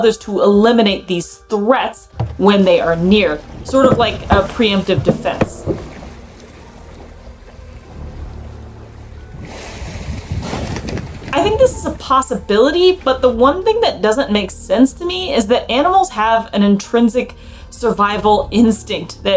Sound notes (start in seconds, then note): 5.8 background music; 5.8 water splashing sounds